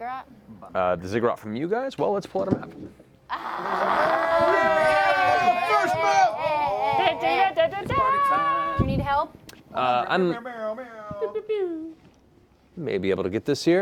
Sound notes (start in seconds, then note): 3.3 cheering